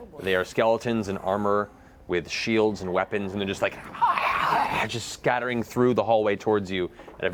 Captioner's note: snarling